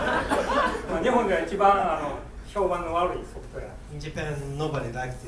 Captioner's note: students laughing; speaking in foreign language